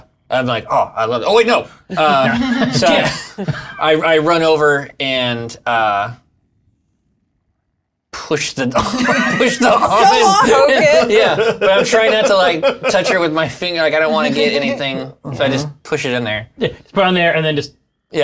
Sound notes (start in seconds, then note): 8.8 laughter